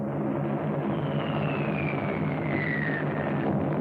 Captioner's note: bombs whistling; explosions